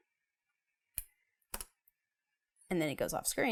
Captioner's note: mouse clicking